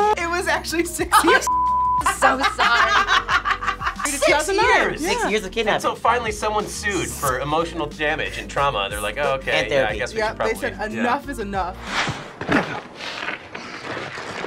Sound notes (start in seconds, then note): 2.0 both laugh